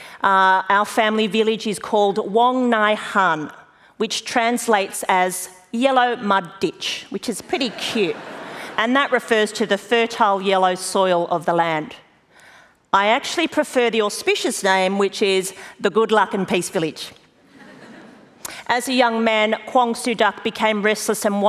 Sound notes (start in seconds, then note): 7.6 laughter; 17.4 laughter